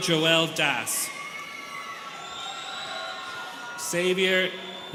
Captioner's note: students cheering